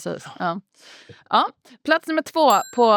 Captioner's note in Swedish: ding